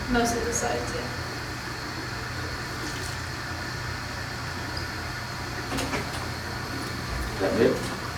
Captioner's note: faucet running